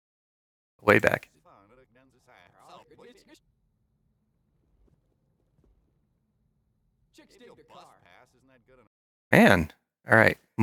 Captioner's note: audio going backwards and forwards